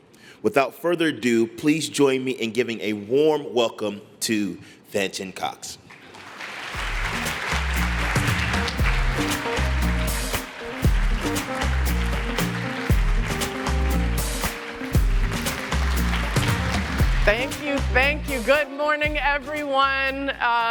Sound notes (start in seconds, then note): 7.8 applause